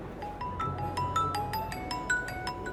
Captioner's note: mobile ringing